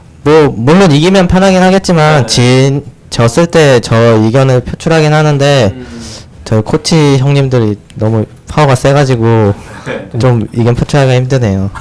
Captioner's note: laughs